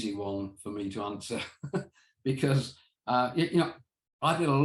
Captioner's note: chuckles